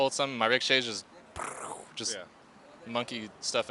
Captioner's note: makes explosion sound